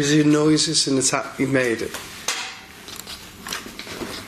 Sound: clink

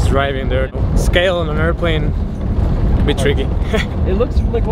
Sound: laughs

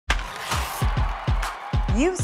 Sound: cheering

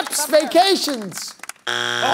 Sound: buzzer sounds

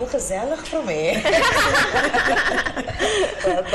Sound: laughter

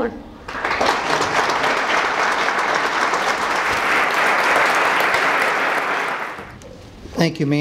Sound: applause

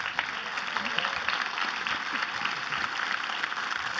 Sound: clapping

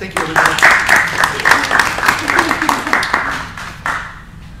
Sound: crowd claps

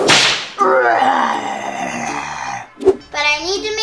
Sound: whip cracking; growling

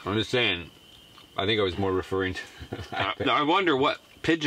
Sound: laughing

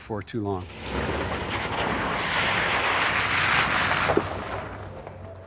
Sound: truck splashing through water; gentle music

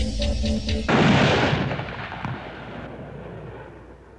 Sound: gun firing

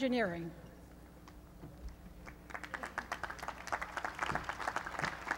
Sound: applause

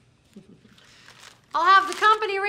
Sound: giggling

